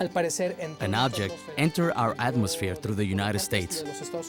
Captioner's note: in Spanish